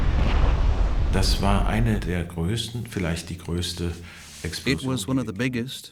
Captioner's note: speaking German